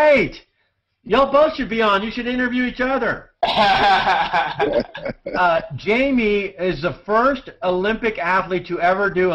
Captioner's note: laughter